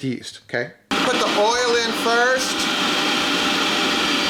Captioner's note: mixer whirring